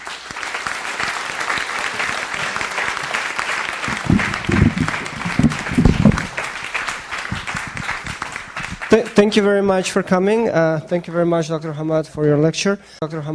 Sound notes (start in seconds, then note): 0.0 audience applauds